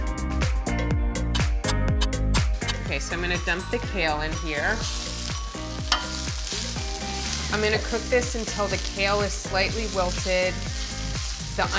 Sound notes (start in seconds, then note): 0.8 upbeat music; 5.0 sizzling